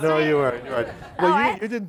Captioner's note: laughing